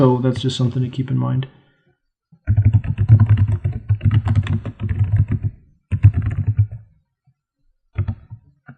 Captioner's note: typing